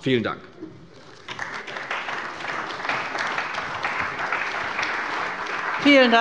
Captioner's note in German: Beifall bei der CDU